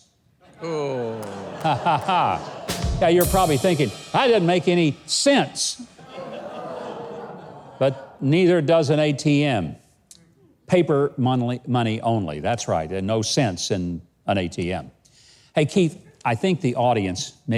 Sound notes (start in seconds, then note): 0.4 adience laughing; 5.8 audience wows